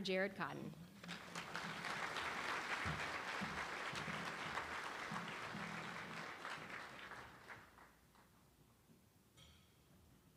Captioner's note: applause